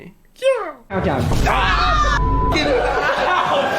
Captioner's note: screaming